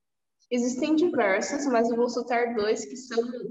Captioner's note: speaking portuguese